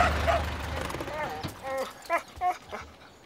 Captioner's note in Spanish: perro ladrando